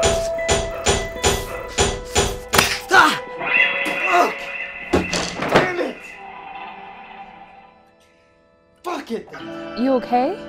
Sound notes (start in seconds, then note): 0.2 screams; 4.9 table scrapes against floor